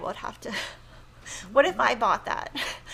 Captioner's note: laughs